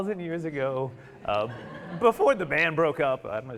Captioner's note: audience laughing